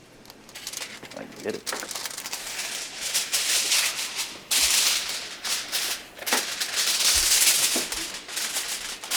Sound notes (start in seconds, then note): 2.9 tinfoil reverberating